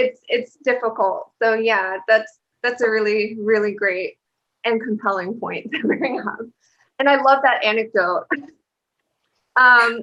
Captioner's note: laughter